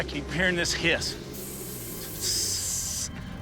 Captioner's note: hisses